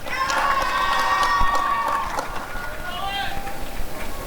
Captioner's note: applause and cheering